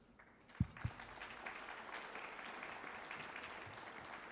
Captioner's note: audience applauds